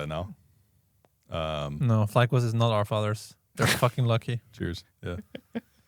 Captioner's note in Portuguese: risos